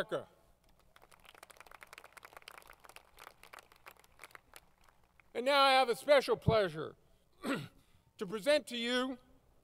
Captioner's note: applause